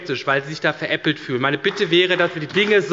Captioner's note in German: Beifall bei der SPD